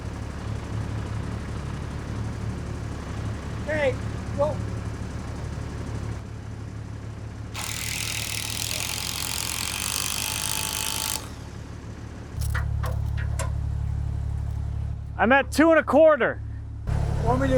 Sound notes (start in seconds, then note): 0.1 motor humming; 7.5 drill whirring